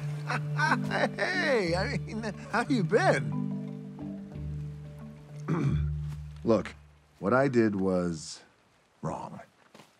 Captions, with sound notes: Ahaha. Hey! I mean, how you been? (Maui clears throat) Look, what I did was wrong.